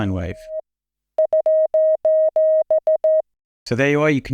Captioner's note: plays sos in morse code